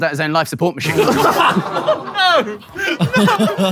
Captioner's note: people in room laughing